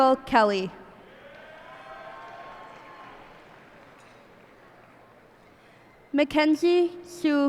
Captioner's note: cheers and applause